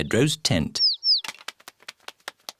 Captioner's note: tweeting